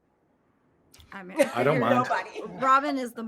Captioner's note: laughing